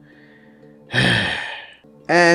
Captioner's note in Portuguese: suspira